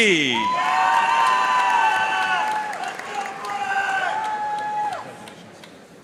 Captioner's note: audience cheering and applauding